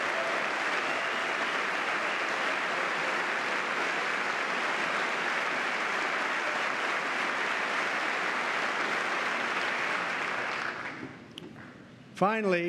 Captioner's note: applause